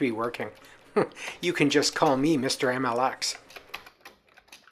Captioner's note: laughs